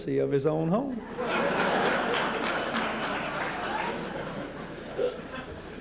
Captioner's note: laughter